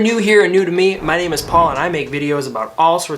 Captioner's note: graphics whoosh